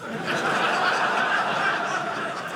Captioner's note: audience laughing